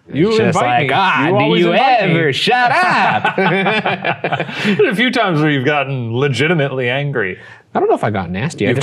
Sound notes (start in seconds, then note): 2.7 both chucking